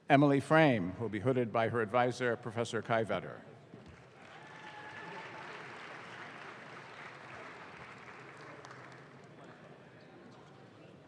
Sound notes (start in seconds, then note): 3.9 audience claps